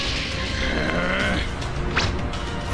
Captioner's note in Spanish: Gruñidos